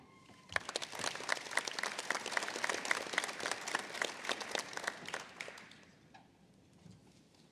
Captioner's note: applause